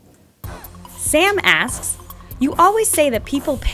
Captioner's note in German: Voice-over